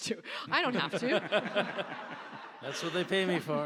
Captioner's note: audience laughs